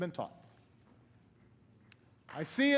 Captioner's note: applause